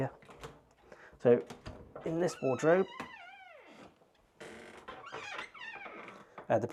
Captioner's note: door squeaking